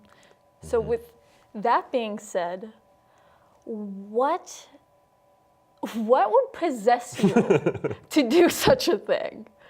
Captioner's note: laughs off screen